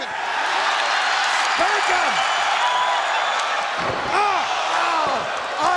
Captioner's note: audience cheering